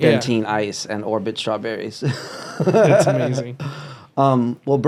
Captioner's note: laughs